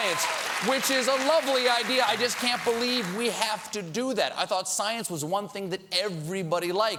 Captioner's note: cheers and applause